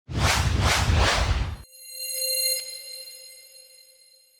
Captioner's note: logo whooshing